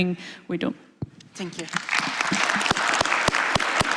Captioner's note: applause